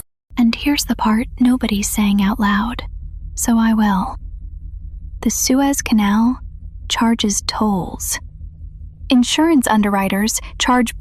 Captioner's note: whispers